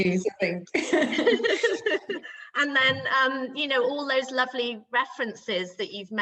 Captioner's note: laughs